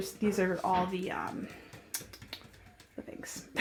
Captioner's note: tapping